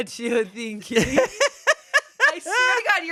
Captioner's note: laughs